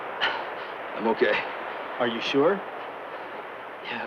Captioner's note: pants